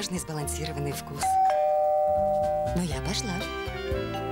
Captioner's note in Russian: дверной звонок